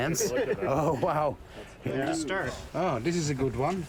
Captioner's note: laughter